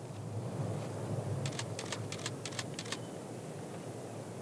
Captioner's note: camera clicks